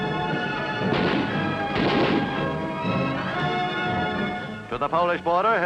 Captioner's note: machine gun blasts